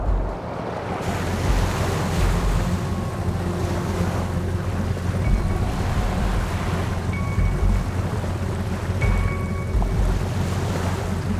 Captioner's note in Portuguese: som de água do mar